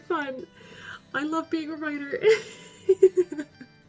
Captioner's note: laughing